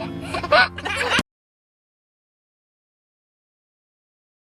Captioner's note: baby laughing